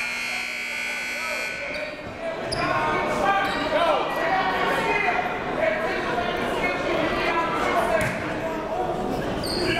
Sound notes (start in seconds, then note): 0.0 buzzer goes off; 2.0 coaches yelling; 2.0 crowd talking